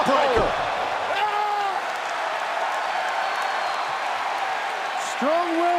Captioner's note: crowd cheering